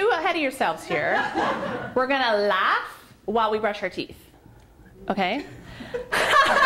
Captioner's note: laughter